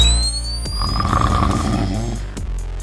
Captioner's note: snore sound